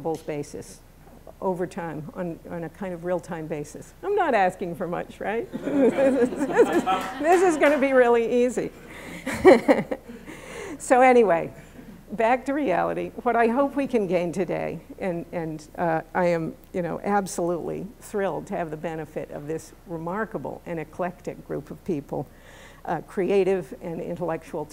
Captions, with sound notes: basis, over time, on a kind of real-time basis. I'm not asking for much, right? [laughter & light applause] This is going to be really easy! [laughs] So anyway. Back to reality. What I hope we can gain today, and I'm absolutely thrilled to have the benefit of this remarkable and eclectic group of people, creative and intellectual